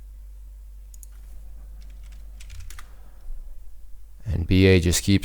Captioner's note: keys typing